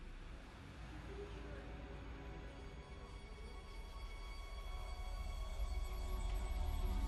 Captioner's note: distorted voices talking; tense music